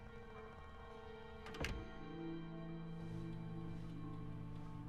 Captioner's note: door creaks; door closes